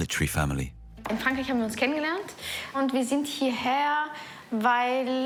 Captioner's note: speaking foreign language